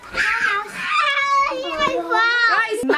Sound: screaming

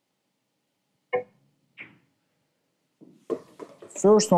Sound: balls clanging

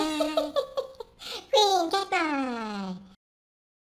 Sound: laugh

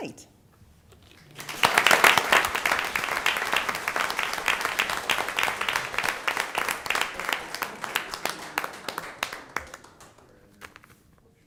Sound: applause

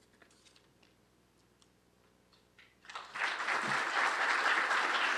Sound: applause

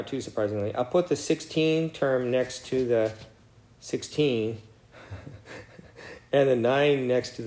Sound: laugh

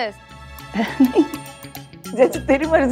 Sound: snickering

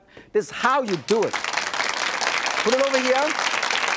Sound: audience claps

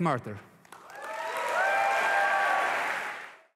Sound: applause and cheering

